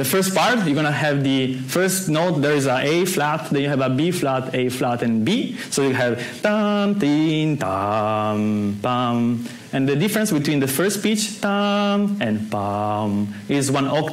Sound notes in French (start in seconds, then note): 5.2 fredonne le son; 8.9 fredonne un son aigu; 11.4 fredonne un son grave